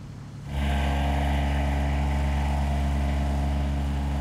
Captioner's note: engine humming